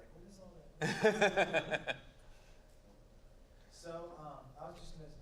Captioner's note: chuckling